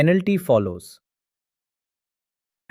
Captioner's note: pause